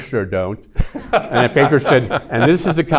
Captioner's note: everyone laughing